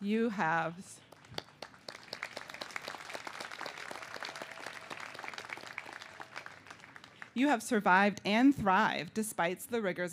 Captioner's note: cheers and applause